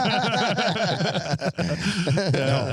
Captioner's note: all laughing